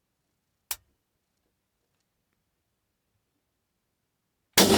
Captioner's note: safety clicking; rifle fires